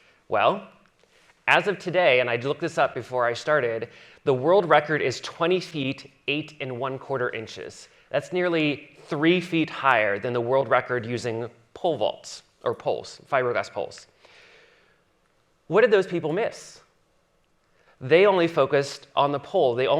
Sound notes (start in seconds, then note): none